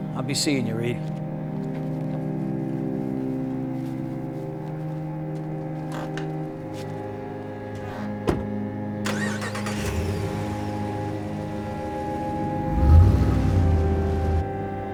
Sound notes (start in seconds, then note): 1.8 gentle suspenseful music; 7.6 truck door thuds; 9.1 truck cranks and starts; 12.8 truck accelerates; 14.7 gentle suspenseful music